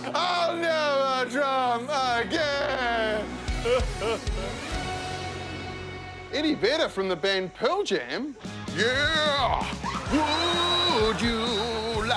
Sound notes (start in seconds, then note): 0.0 laughter; 3.4 sobs